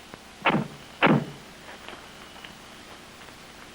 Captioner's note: doors banging